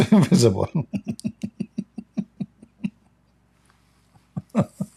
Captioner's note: Ketawa